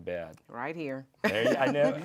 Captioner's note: laughs